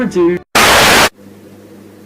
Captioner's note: static